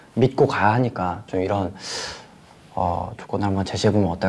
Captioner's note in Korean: 스읍